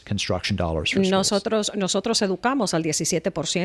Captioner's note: Hablando ingl\s